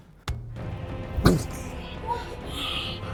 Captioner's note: man in the Fields speaking in foreign language